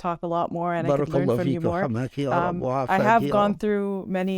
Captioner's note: speaking in Arabic